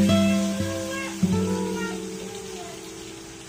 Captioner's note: child's voice